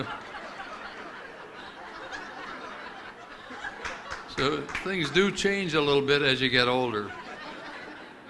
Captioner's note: laughter